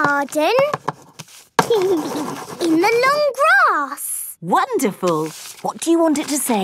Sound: giggling

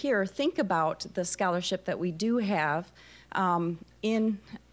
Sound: none

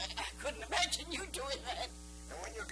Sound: laughing

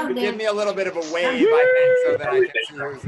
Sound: cheering

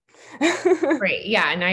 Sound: laughs

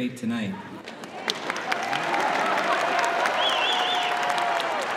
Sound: laughter, applause

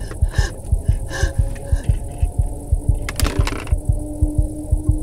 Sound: heart pounding; unsettling music; Sandra hyperventilating

